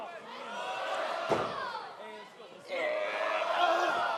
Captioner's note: crowd chatter